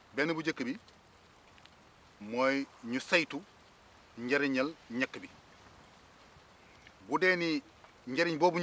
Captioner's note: repeats sentence in Wolof language